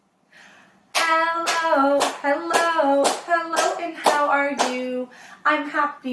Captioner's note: clapping